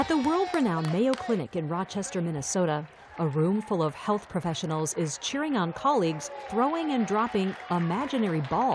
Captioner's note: applause